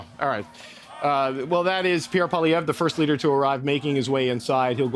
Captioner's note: mixed voices and chanting